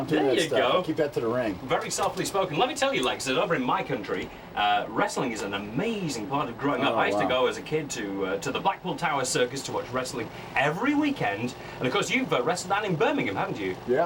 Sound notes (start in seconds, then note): none